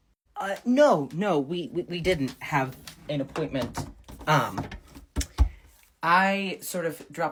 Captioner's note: door closing